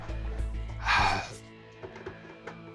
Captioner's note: sighs